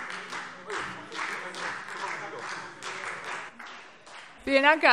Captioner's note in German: Beifall Freie Demokraten